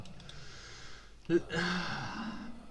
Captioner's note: exhale; inhale